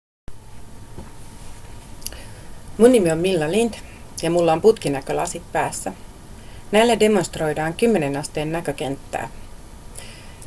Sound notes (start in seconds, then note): 0.4 mechanic background noise